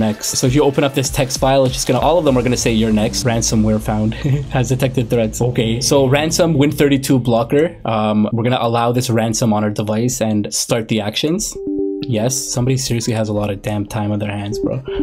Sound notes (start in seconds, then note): 4.1 laughs; 11.5 computer chimes